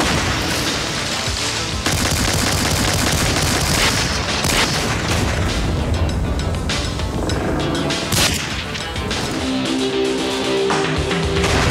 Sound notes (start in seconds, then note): 0.0 explode; 2.0 gun shots; 9.5 theme music